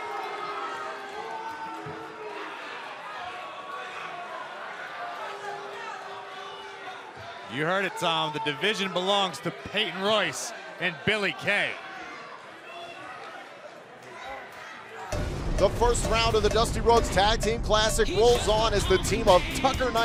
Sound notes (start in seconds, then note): 2.5 crowd chatter; 14.7 crowd chatter